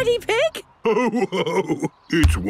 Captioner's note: laughing; giggles